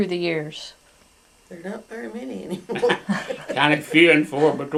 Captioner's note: laughter